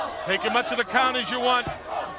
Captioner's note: crowd cheering